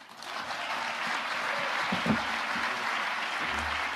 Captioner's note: audience applauding